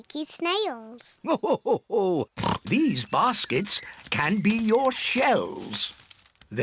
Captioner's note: laughs